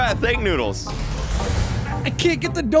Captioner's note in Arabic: شرارة الكهرباء